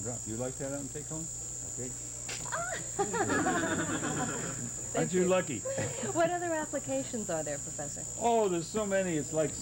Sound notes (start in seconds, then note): 1.9 snap; 2.6 laughter